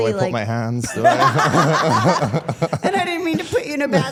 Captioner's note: participants laugh